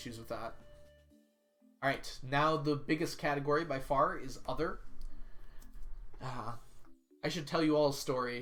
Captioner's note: sighs